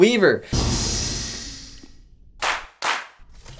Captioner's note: captain claps his hands